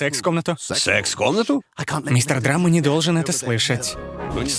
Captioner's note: quiuietly